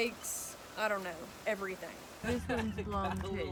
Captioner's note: laughing